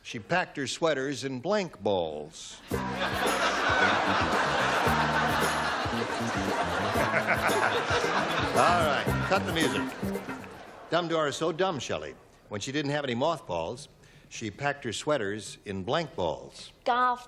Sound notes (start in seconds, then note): 2.7 laughter; 6.1 theme music